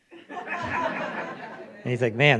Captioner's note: audience laughing